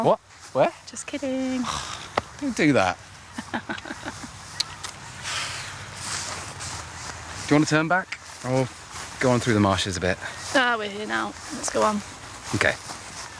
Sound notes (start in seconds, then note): 3.2 laughs